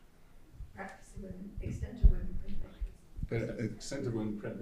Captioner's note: faintly speaking